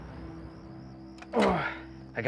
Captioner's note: grunts